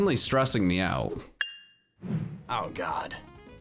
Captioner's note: bell dongs